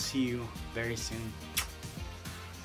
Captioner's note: kiss